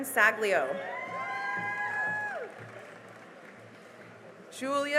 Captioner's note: cheering and applause